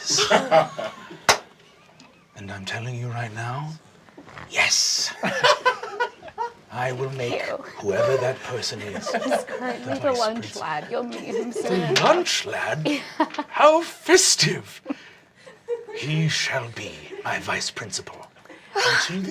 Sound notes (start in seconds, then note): 0.0 cast laughing; 1.2 clapping; 5.1 cast laughing